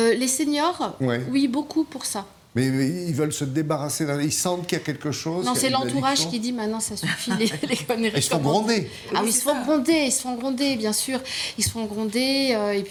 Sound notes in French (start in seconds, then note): 7.0 rires